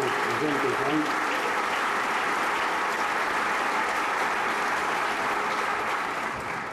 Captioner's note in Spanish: aplausos